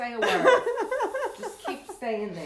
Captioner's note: laughs